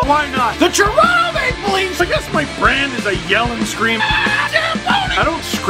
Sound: rock music plays throughout intro; screams

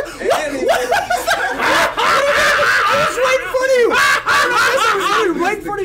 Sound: laugh

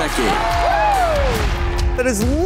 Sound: cheering

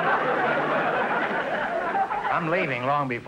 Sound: audience laughter

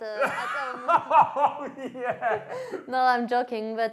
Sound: laughs

